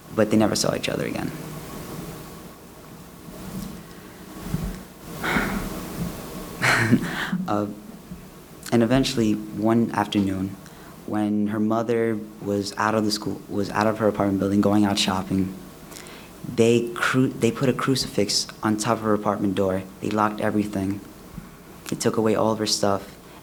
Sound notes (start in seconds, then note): 5.2 sigh; 6.6 laugh